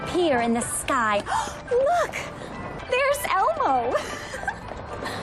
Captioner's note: gasps